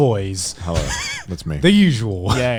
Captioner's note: man laughs